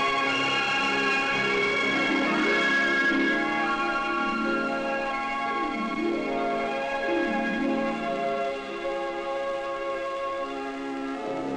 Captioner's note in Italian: Applauso